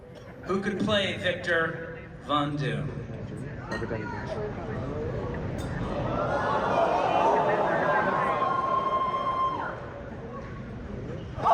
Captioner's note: crowd cheers